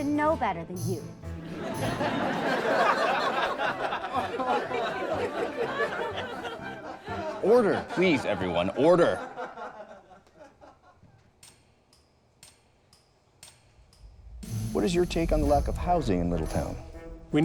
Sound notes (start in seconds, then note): 1.9 laughs; 11.4 clock ticks